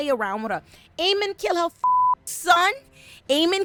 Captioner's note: beep